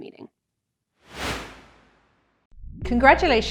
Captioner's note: swoosh